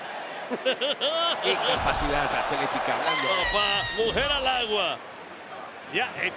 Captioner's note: laugh